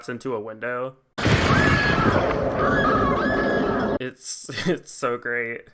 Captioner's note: Marge screams as she collapses into a window